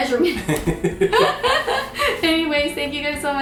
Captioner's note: both laugh